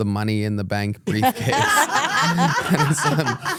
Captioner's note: everyone laughs